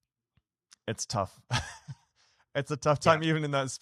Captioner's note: laughs